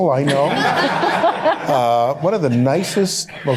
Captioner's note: laughter